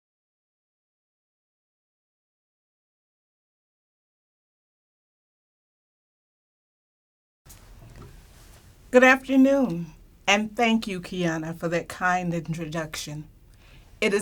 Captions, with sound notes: [Silence] - Good afternoon. And thank you, Keona, for that kind introduction.